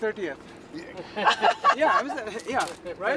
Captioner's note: laughing loudly